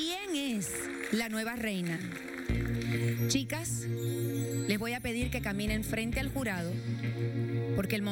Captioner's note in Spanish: aplausos